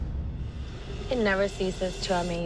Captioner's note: sirens wailing